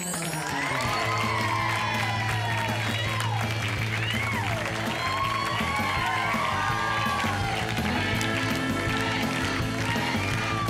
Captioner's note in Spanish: Aplausos